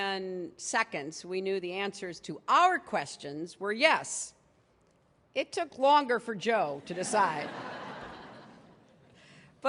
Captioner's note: laughter